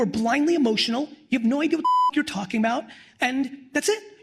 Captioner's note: beep